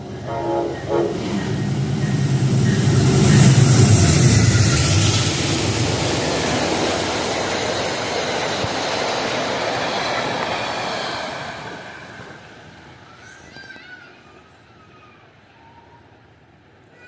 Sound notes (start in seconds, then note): 0.2 horn; 0.2 horn Horn